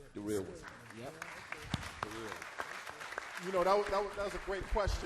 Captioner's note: applause